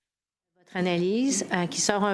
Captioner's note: speaking French